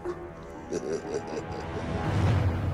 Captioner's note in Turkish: Gülme sesleri